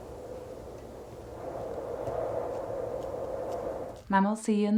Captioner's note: wind continues howling